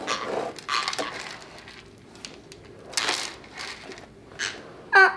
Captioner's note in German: knirscht mit den Zähnen